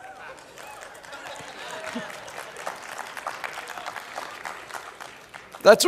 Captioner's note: laughing; applause; laughing; applause